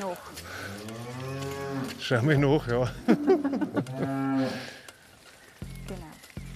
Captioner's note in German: lacht